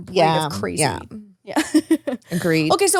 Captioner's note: laughs